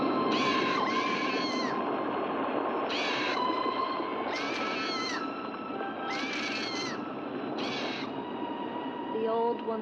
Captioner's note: eerie music; waves crashing; eerie music; bird squawking